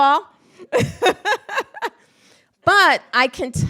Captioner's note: laughs